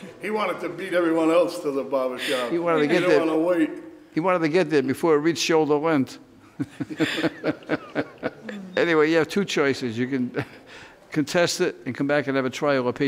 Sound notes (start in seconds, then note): 6.6 all laugh